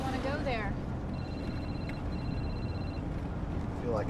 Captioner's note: cell phone ringing